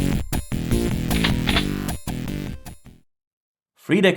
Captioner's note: shotgun load